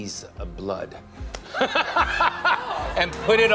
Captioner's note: laughter